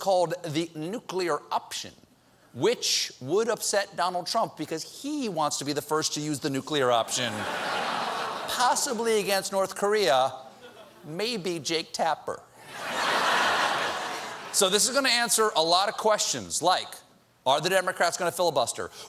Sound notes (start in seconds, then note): 10.0 laughter